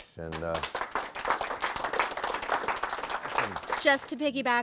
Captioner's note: audience applause